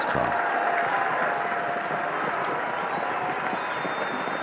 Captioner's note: crowd cheering